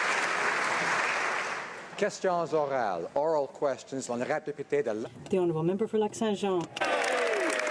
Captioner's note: applause